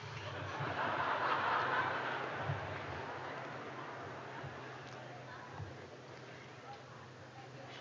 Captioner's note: laughter